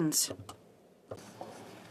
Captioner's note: speaking French